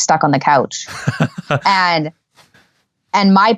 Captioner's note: laughing